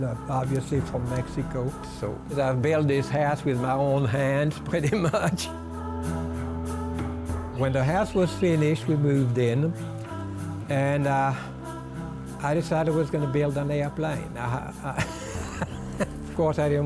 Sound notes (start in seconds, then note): 6.4 soft vocalizing music; 14.9 laughs